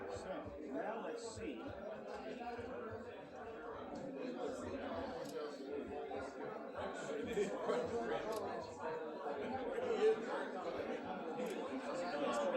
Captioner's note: crowd Noise